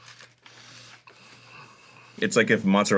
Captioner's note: contemplative exhale